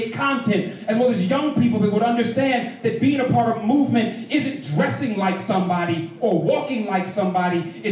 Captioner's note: none